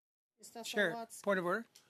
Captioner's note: speaking French